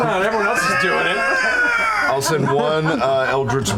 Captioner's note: screeching